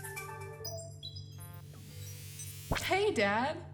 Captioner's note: ringtone continues; confirmation beep; electrical whirring